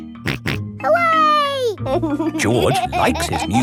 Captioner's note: snorts and laughs